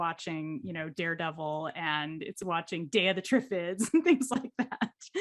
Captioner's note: chuckles